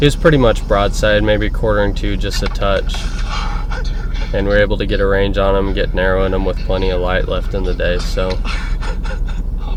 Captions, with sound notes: ... He was pretty much broadside, maybe quartering to just a touch. [exhales deeply] Dude. And we were able to get a range on him, get narrowing him with plenty of light left in the day, so